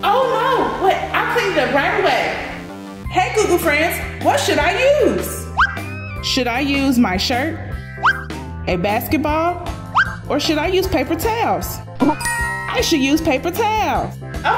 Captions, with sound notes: - Oh, no. Wait, I will clean it right away. Hey, Goo Goo friends, what should I use? (screen whistles) Should I use my shirt? (screen whistles) A basketball? (screen whistles) Or should I use paper towels? (graphics dinging) I should use paper towels.